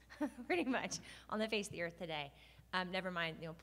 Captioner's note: laughs